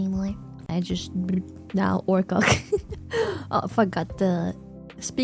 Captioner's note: laughs